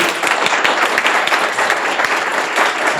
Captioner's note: applause